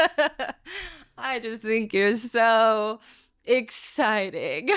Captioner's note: laughing